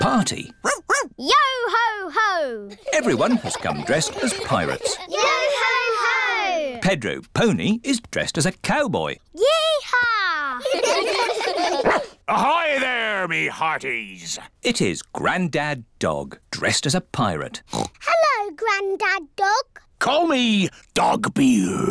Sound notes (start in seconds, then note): 0.6 barks; 10.6 all giggle; 11.8 barks; 17.7 oinks